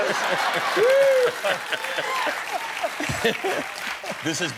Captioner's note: laughter